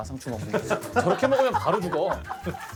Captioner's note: haha